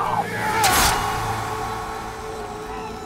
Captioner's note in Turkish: Bağırma sesi; Kılıç sesi